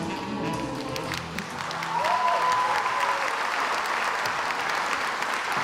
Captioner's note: cheers and applauds